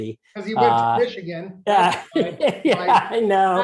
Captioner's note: laughter